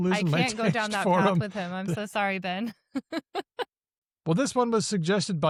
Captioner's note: laughs